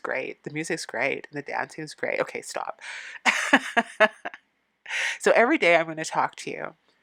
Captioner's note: laughing